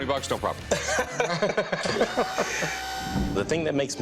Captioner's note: both laughing